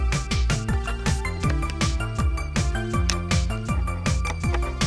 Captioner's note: click